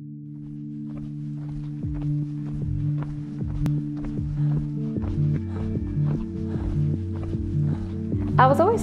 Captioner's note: footsteps and heavy breathing